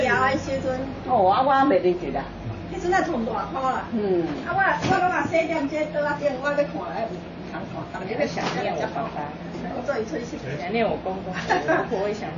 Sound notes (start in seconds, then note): 5.1 people speaking Taiwanese